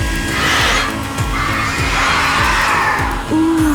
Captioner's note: screeching